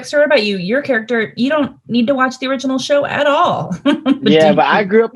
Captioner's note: laughing